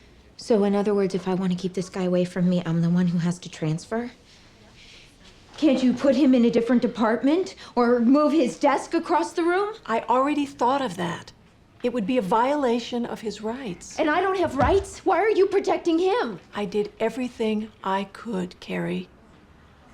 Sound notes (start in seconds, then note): none